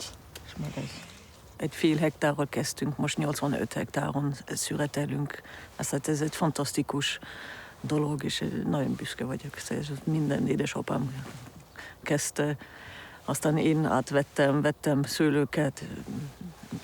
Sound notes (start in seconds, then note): 1.9 speaking in foreign language